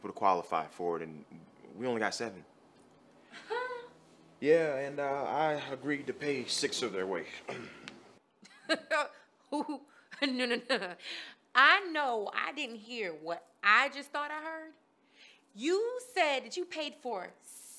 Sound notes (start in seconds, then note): 7.9 laughs